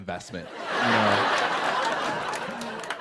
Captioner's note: laughter